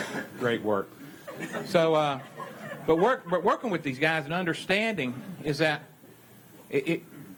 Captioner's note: laughter